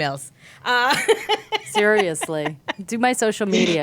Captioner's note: laughing